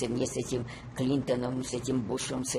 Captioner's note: none